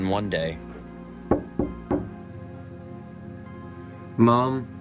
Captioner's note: door knocking